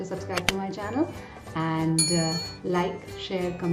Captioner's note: bell chiming